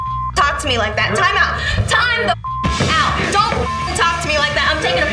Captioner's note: beep; beep